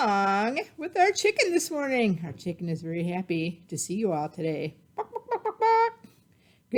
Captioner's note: clucking